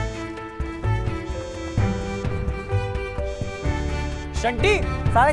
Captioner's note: Vibrating